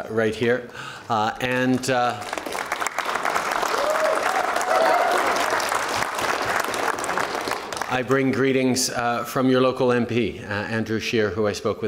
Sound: applause & cheers

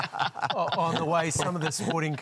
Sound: laughter

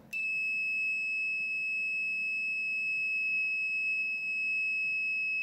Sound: prolonged beep

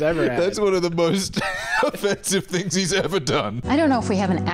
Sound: wheezes

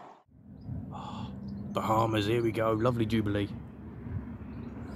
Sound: gasps

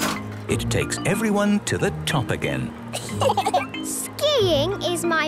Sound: laughter

